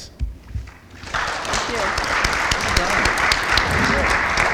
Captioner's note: audience applauding